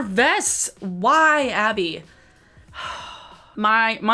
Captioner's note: sighs